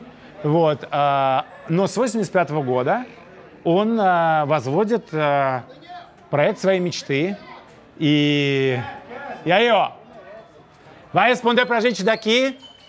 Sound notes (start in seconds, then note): 8.4 shouts in Portuguese; 10.9 speaks Portuguese